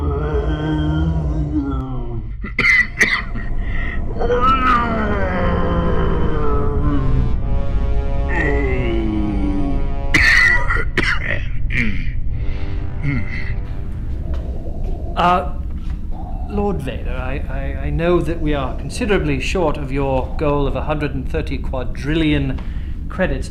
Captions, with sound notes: (coughing) (coughing) Lord Vader, I know that we are considerably short of your goal of 130 quadrillion credits